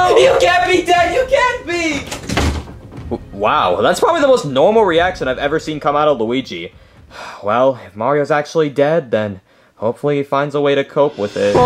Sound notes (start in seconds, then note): 2.1 door slamming; 6.8 sighing